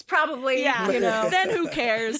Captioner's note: all laugh